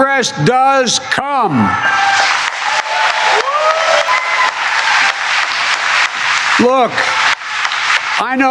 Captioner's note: cheering and applause